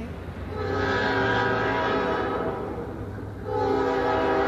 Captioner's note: train hoots